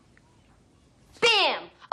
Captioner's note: yells